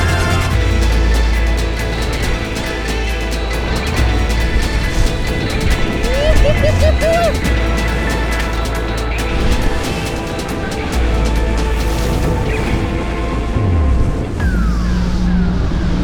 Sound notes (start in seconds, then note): 6.0 man whooping; 9.0 upbeat electronic music